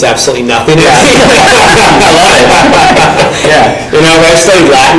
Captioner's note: panel laughing